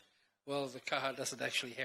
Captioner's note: speaks in foreign language